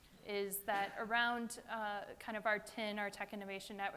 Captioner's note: none